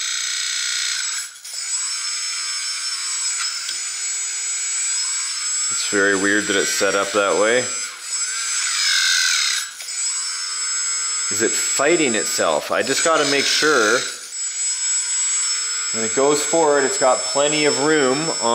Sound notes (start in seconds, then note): 1.4 high pitch whirring; 8.5 high pitch whirring